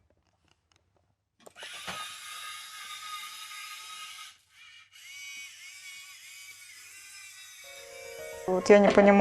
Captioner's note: robot buzzes